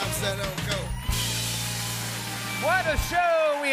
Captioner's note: cheers and applause